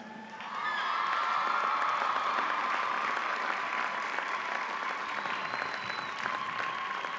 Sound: audience cheering; audience applauding

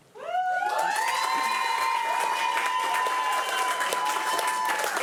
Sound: audience cheering

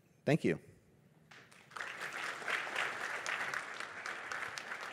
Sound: applause

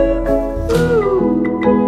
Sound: clap

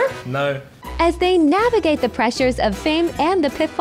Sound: AI Voice

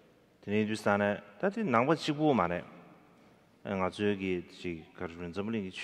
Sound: speaking in foreign language

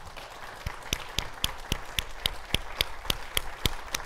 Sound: audience clapping

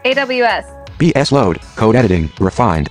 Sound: automated Voice

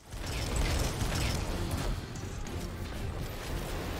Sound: gun firing

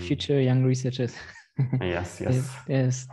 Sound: laughs

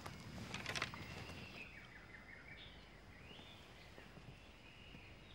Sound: birds chirping

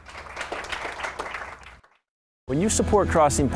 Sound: applauding

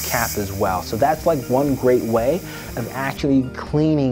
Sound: can spraying

